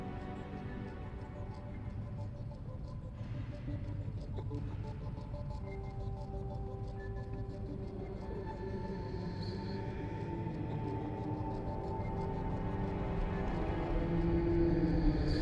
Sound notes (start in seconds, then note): 7.4 echoing voice speaking